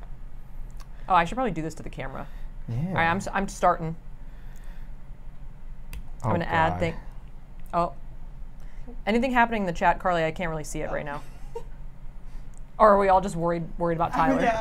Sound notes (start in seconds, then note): 11.0 laughs